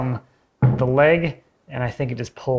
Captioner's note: leg thudding